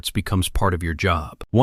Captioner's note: thoughtful